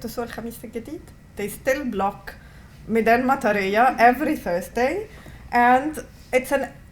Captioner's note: non-english; non-english